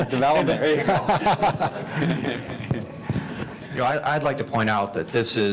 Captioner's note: group laughing